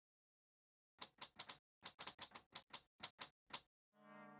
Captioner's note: typewriter clicks